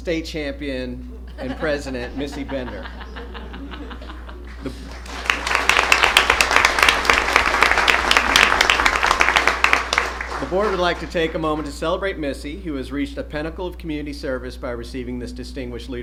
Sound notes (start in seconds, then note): 4.4 applause